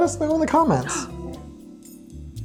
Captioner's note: gasps